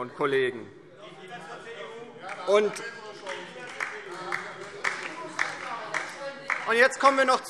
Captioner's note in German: Beifall DIE LINKE - Zurufe